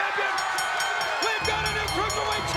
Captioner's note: crowd cheering; bell dinging